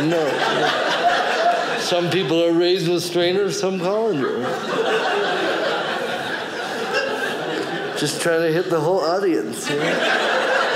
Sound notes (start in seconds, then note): 5.3 audience laughing; 10.5 audience laughing